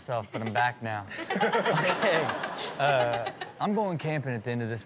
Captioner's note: everyone laughs